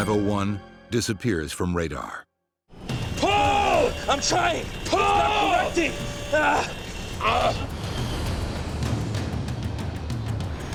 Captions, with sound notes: disappears from radar. Pull! - I'm trying. - Pull! - It's not correcting! (both grunting)